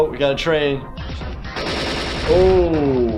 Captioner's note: gun shots